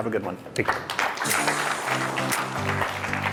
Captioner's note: applause